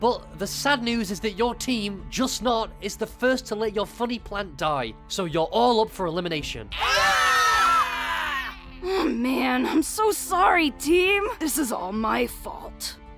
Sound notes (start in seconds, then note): 6.7 scream